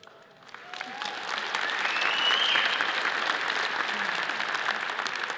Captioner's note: audience cheers and applauds